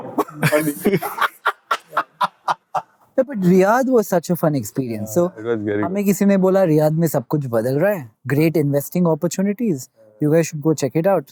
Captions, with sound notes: "Honey." [laughter] But Riyadh was such a fun experience. [speaking in Hindi] "Great investing opportunities, you guys should go check it out."